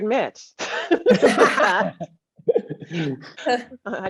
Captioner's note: all laughing